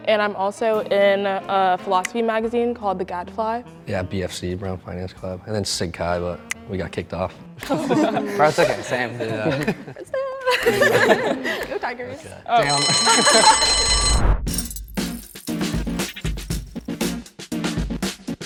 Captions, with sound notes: And I'm also in a philosophy magazine called the Gadfly. - Yeah. BFC- Brown Finance Club and then Sig Chi. But we got kicked off. (students laughing drowns out speaker) - Go Tigers. (bell ringing) (suspenseful music)